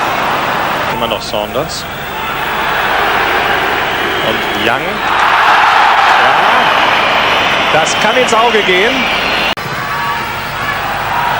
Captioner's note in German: jubel